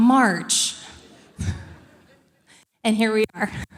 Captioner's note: audience laughing